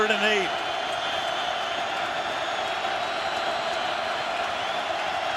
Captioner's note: crowd cheering